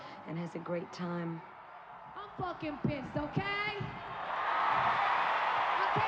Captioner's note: cheering